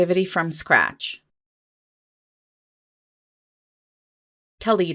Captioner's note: silence